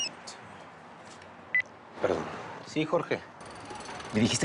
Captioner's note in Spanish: Suena el celular